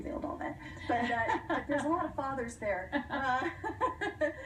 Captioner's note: laughter